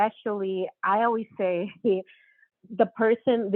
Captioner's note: laughs